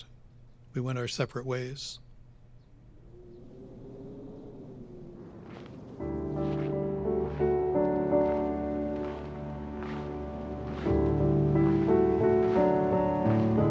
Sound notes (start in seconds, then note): 2.9 wind blowing; 6.0 piano music